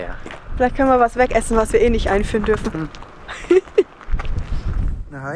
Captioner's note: laughter; in Swiss German